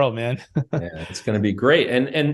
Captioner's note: chuckles